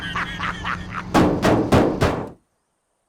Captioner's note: laughing; banging